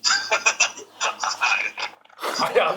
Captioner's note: cough